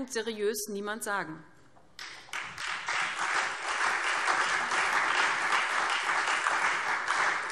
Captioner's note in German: Beifall SPD und Freie Demokraten